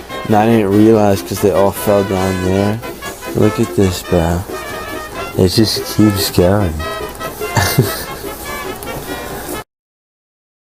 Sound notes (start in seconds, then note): 7.3 laughs